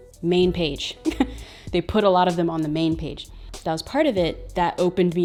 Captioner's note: chuckles